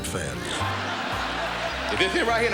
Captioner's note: laughter